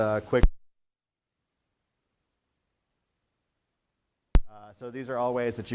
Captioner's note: audio Cuts Out